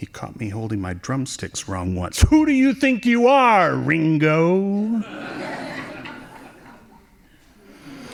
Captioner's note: laughing